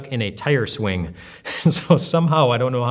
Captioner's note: laughs